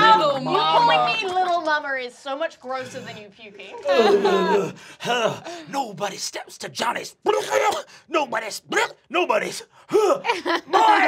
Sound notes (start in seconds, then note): 6.7 gagging; 9.9 gags; 9.9 laughing